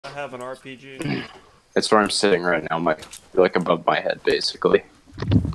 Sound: throat clear

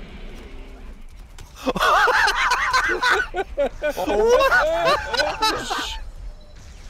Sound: group laughter

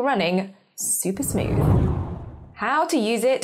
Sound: screen whooshes

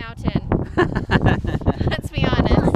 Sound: laughs

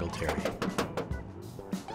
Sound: knocking

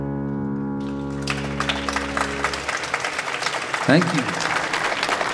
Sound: audience applauding

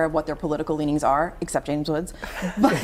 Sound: laughter

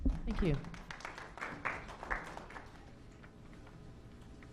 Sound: clapping

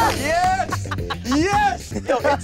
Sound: laughing; yelling

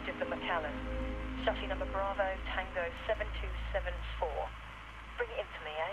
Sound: radio

